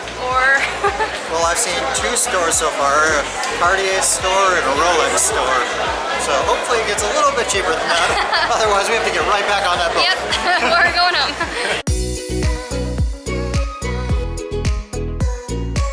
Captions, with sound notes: Well, I've seen two stores so far, A Cartier store and a Rolex store, so hopefully it gets a little bit cheaper than that! [Laughter] Otherwise, we have to get right back on that boat! Yep, we're going home. [Laughter]